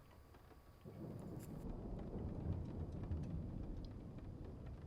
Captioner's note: thunder rumbles; rain patters